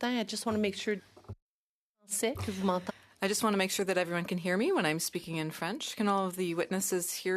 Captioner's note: speaking French